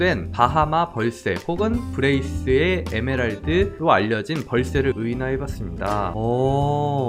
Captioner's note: voiceover